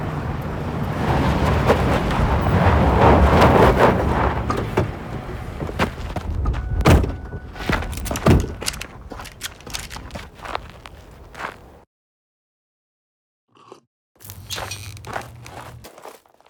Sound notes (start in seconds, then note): 7.6 guns clicking